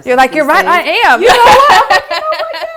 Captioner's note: laughing